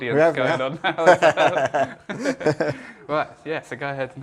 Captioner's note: laughs